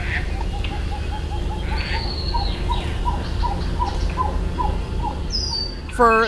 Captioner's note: bird calls